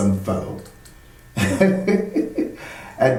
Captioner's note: laughing